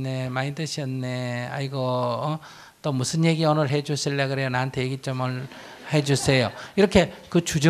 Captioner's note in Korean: 청중 웃음